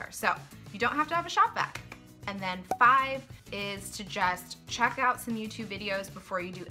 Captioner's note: cork pop